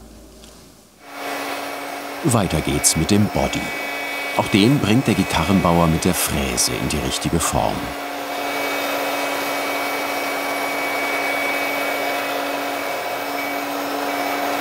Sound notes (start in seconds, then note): 8.8 whirring noise